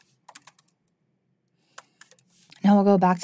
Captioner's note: keyboard clacking continues